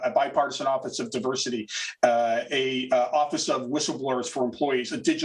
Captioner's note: chuckles